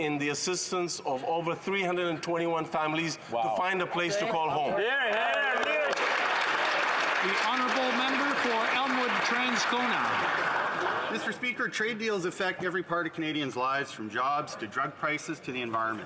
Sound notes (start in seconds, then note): 9.2 some Applause